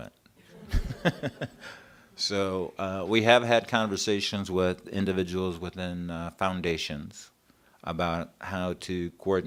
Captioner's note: laughter